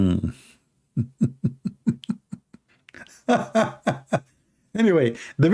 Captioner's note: Ketawa